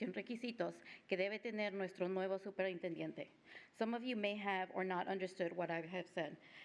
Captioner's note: speaking spanish